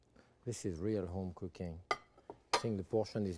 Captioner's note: plates clinking